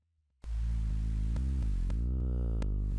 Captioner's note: Pink Trombone makes a low humming "V" sound